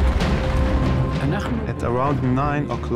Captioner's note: speaking in foreign language